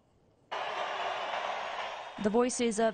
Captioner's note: nat - people cheering